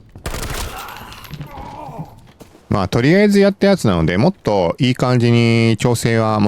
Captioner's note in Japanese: うめき声